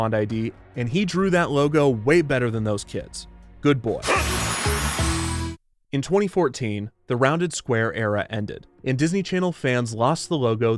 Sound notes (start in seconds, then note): 4.1 dog barking